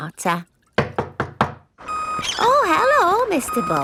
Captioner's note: knocking at door